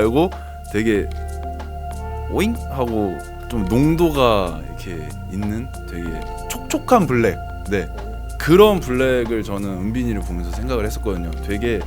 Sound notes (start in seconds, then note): 4.4 boing!